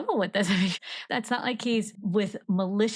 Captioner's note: laughs